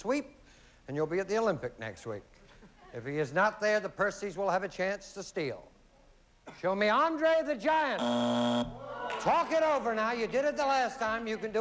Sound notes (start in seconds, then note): 8.0 buzzer